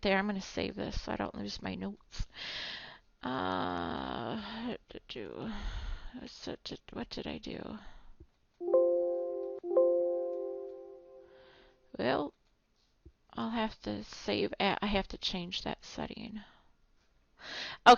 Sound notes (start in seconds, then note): 8.6 computer chiming